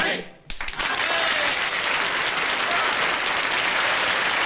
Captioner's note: applause